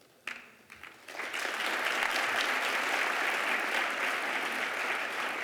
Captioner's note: applause